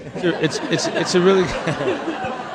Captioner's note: crowd laughs